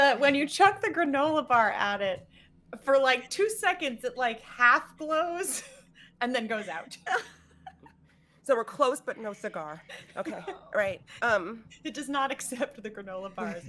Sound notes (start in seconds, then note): 6.3 laughing